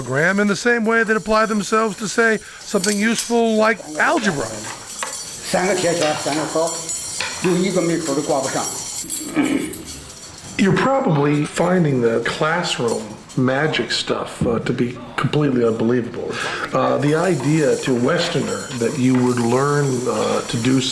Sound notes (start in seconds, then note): 5.3 non-english speech